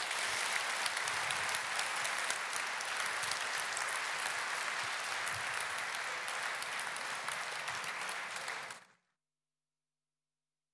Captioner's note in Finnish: aplodit